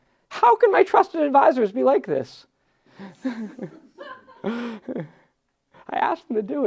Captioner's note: laughs